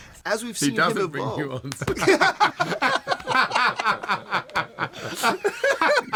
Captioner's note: everyone laughs